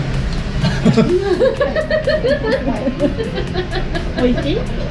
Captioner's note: embarrassed hahahaha